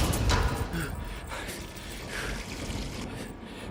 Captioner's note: Fleques panting